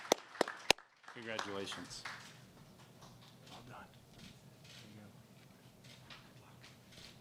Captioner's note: applause